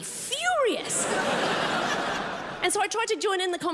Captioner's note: crowd laughs